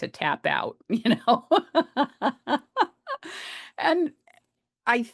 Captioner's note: laughs